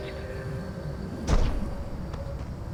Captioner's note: thud